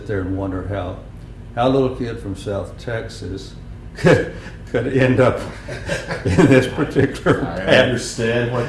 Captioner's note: laughter